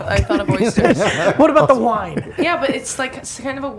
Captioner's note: laughing